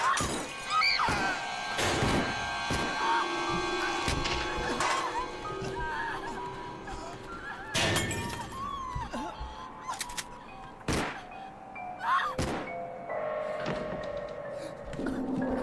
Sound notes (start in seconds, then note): 0.0 people yelling; 0.2 gun firing; 7.7 glass shattering; 10.8 whimpering. Gun shot; 10.9 gun firing, woman screams